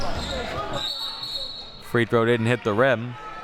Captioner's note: whistle blowing